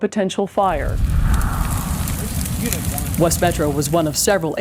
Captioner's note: fires crackle